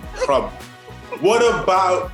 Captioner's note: laughs